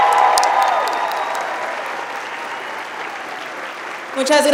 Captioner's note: applauding